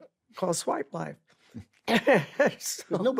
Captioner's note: laughs